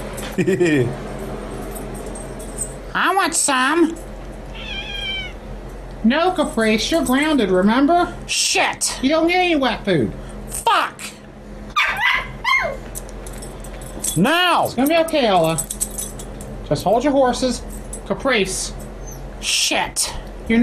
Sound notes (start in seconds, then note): 0.2 Ella chuckles; 4.5 Caprice meows; 11.7 Ella barks